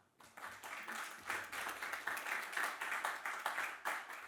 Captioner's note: audience applauding